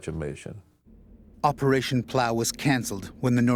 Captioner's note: voiceover